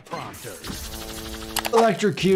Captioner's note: electricity buzzing